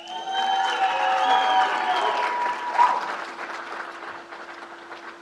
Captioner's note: crowd cheers and applauds